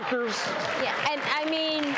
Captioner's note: audience claps